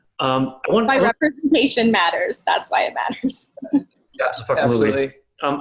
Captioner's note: murmurs